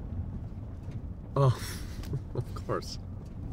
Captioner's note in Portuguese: risos